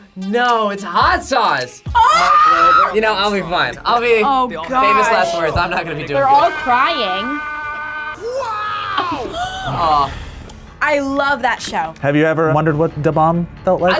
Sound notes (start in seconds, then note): 1.9 screams; 9.3 gasps